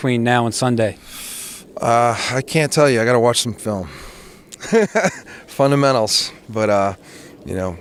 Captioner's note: laughs